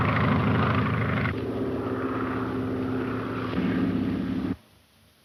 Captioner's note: airplane engine roaring